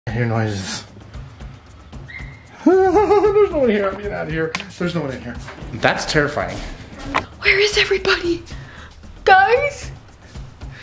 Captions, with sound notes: - I hear noises. (nervously laughing) There's no one here. I'm getting out out of here. There's no one in here. That's terrifying. - Where is everybody? Guys?